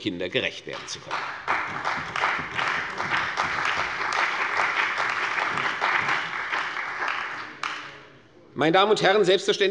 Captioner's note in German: Beifall bei der CDU und dem BÜNDNIS 90/DIE GRÜNEN